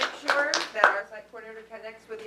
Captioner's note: applause